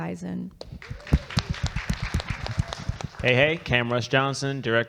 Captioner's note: audience clapping